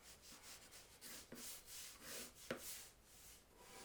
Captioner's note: pencil scratching